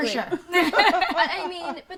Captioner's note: laughs